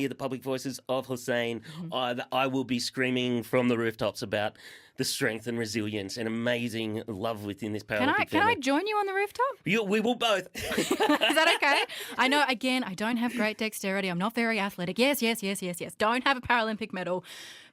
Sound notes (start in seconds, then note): 10.5 laughter